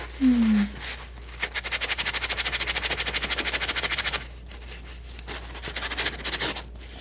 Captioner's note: scratching